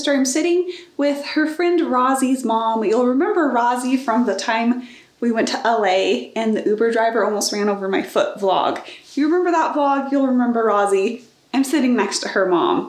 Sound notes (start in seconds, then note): none